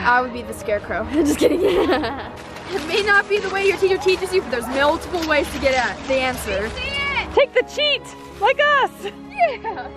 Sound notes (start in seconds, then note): 1.2 laughs